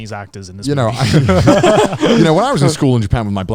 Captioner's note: everyone laughs